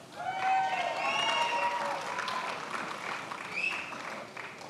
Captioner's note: attendees applauding